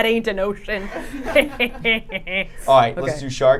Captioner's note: group laughing